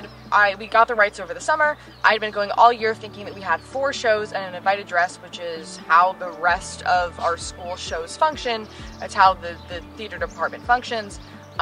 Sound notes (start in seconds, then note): none